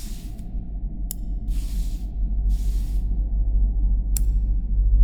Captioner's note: mouse clicking